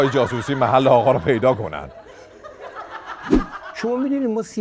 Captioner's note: laughter